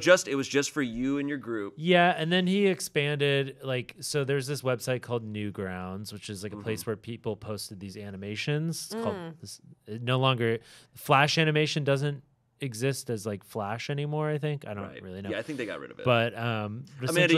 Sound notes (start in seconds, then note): 9.8 stammering